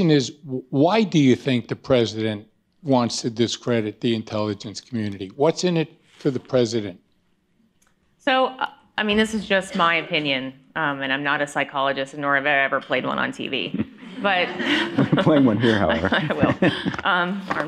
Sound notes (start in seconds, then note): 13.6 laughter; 16.6 laughing